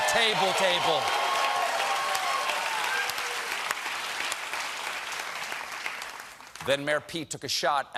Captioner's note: applause